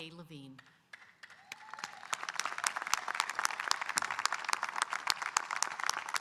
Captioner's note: audience applauding and cheering